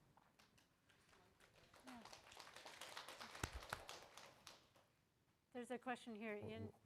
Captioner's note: audience applauding lightly